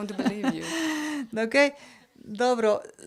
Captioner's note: laugh